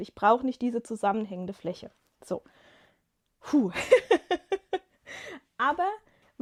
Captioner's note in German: gelächter